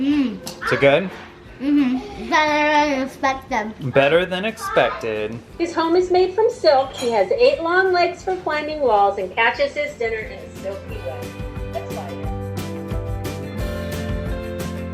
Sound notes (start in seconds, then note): 6.0 through computer; 10.0 theme music